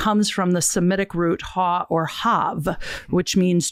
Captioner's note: speaking in a foreign language